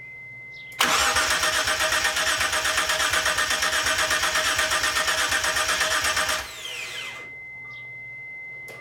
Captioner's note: engine cranks over